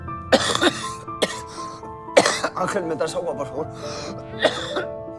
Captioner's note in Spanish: tose fuerte